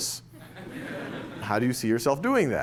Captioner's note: laughter